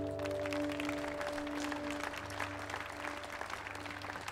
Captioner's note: audience applauding